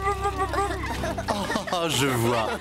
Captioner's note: laughing